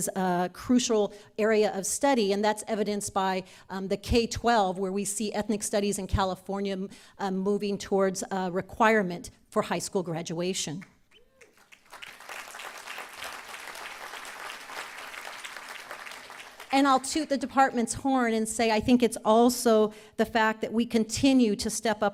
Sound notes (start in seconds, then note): 11.4 applause